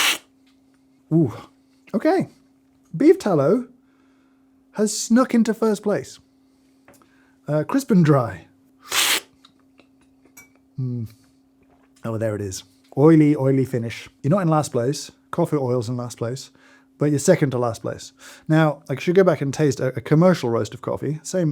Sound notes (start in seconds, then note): 0.0 slurping; 8.8 slurping